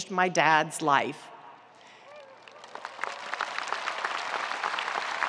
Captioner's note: audience applauding